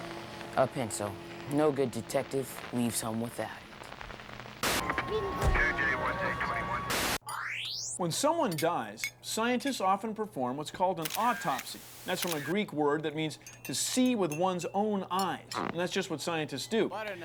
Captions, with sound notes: A PENCIL -- NO GOOD DETECTIVE LEAVES HOME WITHOUT IT. [ MAN SPEAKS INDISTINCTLY ON POLICE RADIO ] WHEN SOMEONE DIES, SCIENTISTS OFTEN PERFORM WHAT'S CALLED AN AUTOPSY. THAT'S FROM A GREEK WORD THAT MEANS "TO SEE WITH ONE'S OWN EYES," AND THAT'S JUST WHAT SCIENTISTS DO.